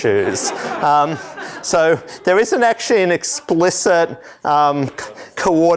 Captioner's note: laughter